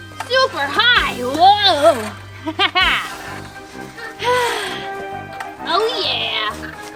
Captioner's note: laughs